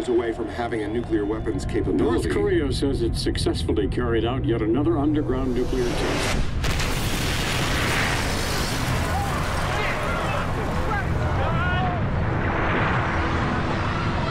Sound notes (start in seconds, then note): 5.2 loud booming; 9.0 screaming